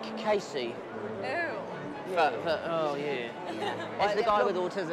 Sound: laughs

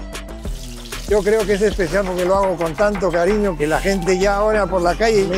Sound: speaks in a foreign language

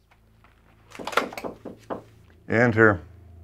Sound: knocking

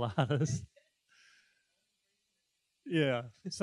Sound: chuckling

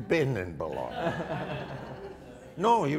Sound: audience laughter

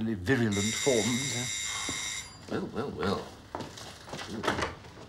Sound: doorbell

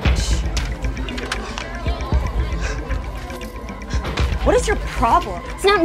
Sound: hallway chatter

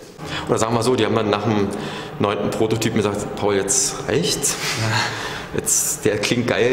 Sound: laughs

